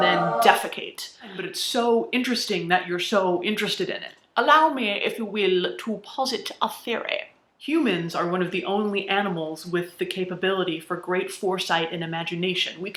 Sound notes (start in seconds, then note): 4.3 British accent